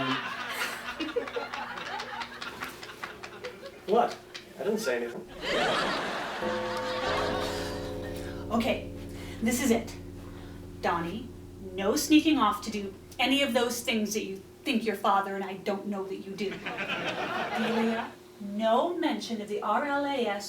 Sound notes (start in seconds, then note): 0.0 audience laughing; 5.4 doorbell chimes